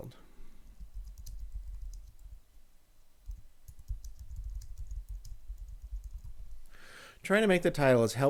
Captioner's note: typing on screen